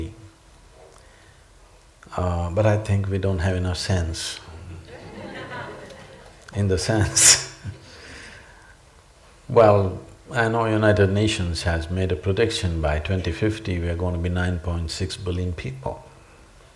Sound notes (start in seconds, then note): 4.8 laughter; 4.8 laughs